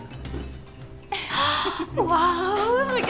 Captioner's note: gasps, laughing